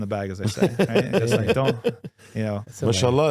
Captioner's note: laughing